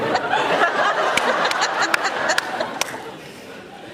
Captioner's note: laughs